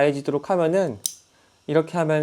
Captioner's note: impact